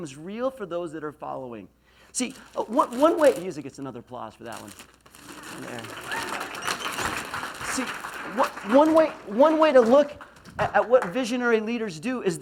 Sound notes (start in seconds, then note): 5.2 applause; 5.6 laughs